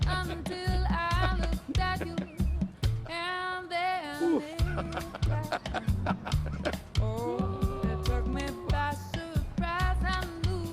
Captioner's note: laughter